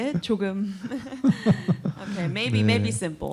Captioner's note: laughter